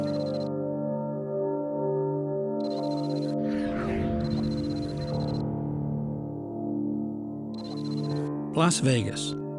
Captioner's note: voice-over